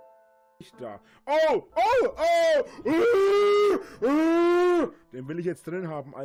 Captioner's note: yells like a maniac